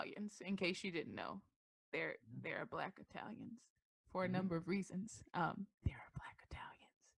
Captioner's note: whispers